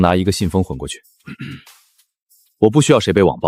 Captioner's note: cough